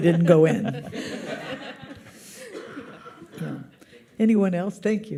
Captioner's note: audience laughs